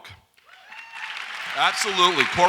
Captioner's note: audience applauds